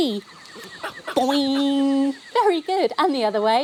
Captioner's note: boing - mimicking the bounce of a spring